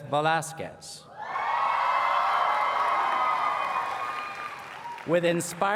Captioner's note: cheers and Applause